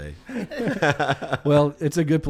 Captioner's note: laughs